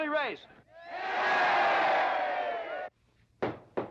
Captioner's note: crowd cheering; loud knocking